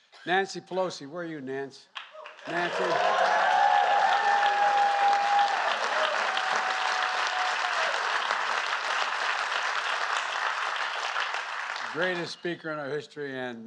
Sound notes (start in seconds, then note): 1.9 applause